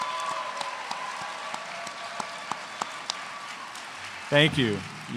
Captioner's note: cheers and applause